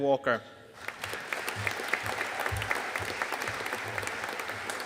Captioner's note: audience applauding